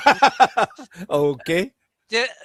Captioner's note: laughter